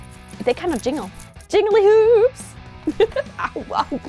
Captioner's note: laugh